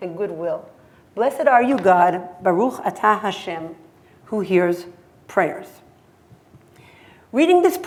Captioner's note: hebrew